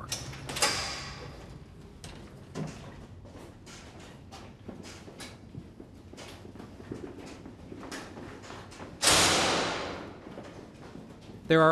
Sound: footsteps

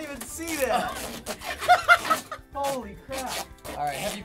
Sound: laughs giddily

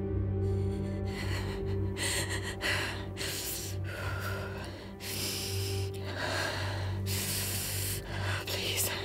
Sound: panicked Breathing

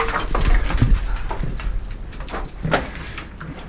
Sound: clattering

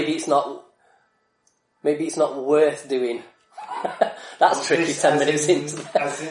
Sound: laughs

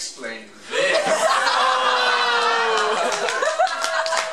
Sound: jeering

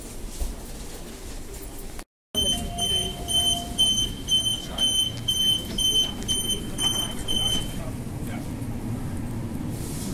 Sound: doors Closing Beeps

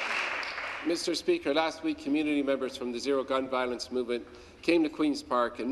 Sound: applause

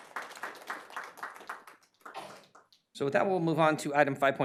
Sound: applause

